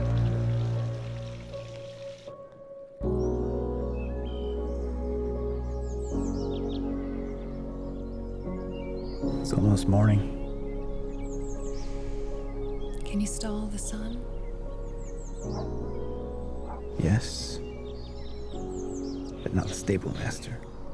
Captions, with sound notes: (pensive music) (gentle music) (birds calling) - It's almost morning. - Can you stall the sun? - Yes, but not the stable master.